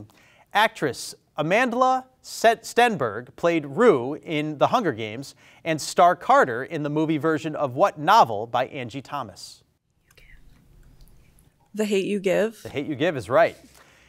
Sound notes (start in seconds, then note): none